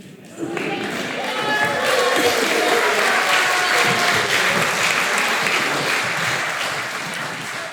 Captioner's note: applause